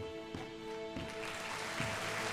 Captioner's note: audience applauding